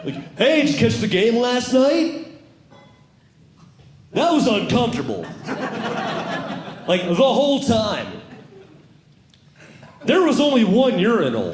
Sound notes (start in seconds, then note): 5.3 audience Laughing